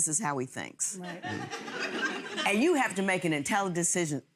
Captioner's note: audience laughs